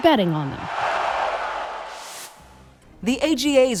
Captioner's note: crowd cheers